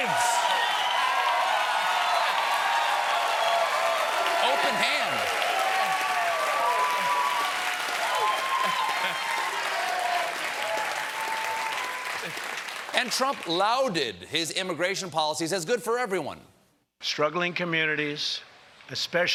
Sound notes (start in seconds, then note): 4.7 cheers and applause